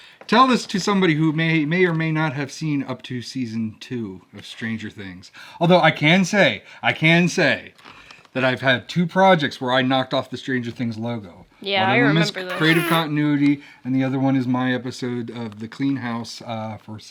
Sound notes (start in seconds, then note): 12.2 whoopie cushion sound effect